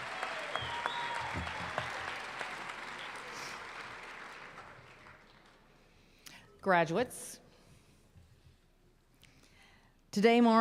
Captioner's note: applause